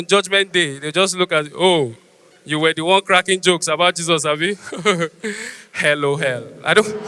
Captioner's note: laughs